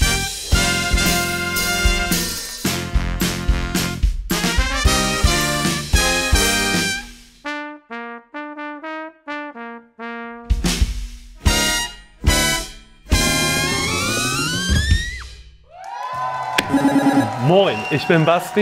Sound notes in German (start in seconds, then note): 11.4 Fetzige Klänge; 15.7 Jubel